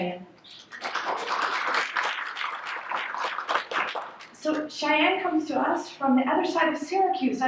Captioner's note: applause